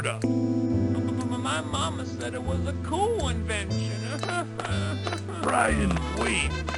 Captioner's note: starts sobbing